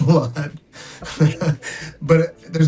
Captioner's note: Oscar chuckling